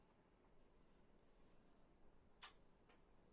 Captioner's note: kiss